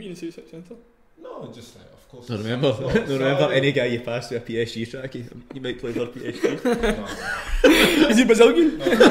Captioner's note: laughs